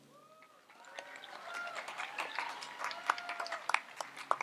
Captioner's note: audience applauds